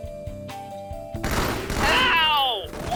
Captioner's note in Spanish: tiroteo